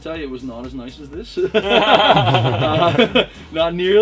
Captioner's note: laughter!